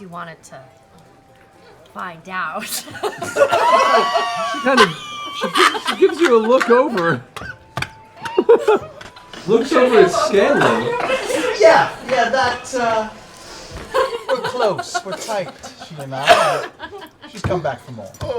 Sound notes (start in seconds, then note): 2.7 laughter